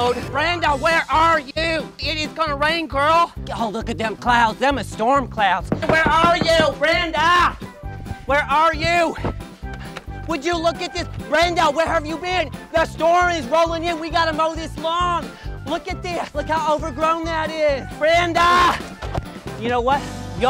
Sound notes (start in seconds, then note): 5.7 knocking